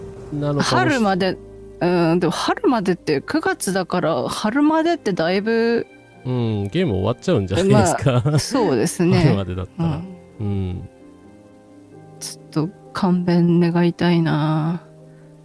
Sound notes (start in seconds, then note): 7.5 laughs